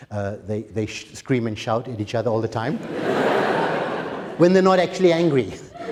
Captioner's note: laughter